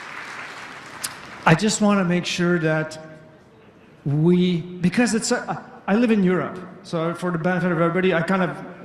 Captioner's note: applause